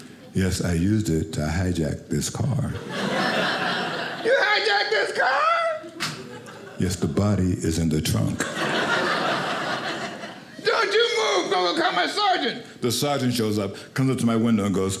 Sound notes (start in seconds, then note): 2.8 audience laughing; 8.3 audience laughing